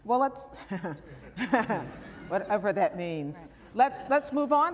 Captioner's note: laughter